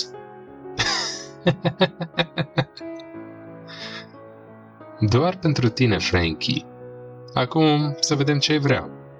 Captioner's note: Joe laughed